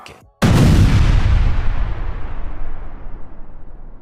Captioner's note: exploding